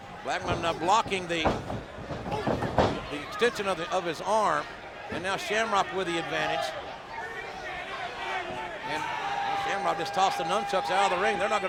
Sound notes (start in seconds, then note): 7.9 crowd shouting